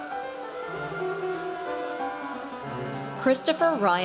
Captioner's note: audience cheers